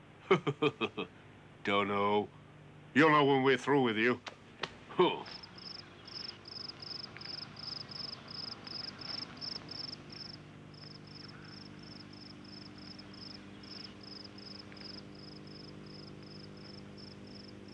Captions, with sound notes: - (laughs) Don't know? You'll know when we're through with you. (crickets chirping)